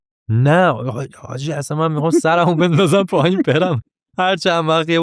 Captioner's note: laughs